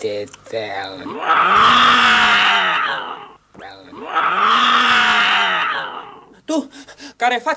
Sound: aggressively mewling

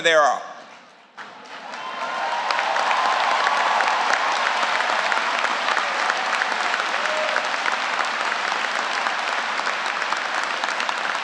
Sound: applause

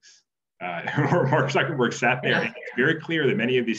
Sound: laughter drowns out speaker

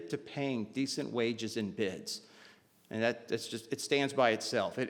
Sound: none

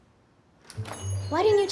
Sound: door jingle

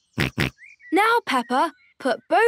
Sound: snorts

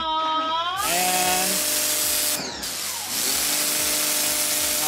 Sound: power washer whirring

